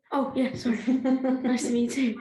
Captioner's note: laughter